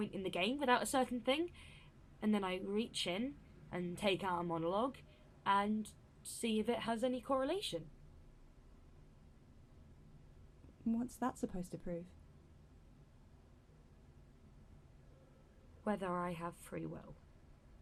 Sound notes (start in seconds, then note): 13.0 a pause